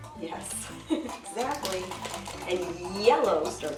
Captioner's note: chuckles